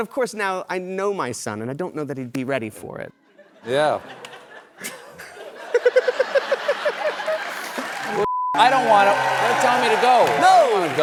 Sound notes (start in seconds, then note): 3.3 laughter